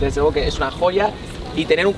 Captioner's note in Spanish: ruido de la ciudad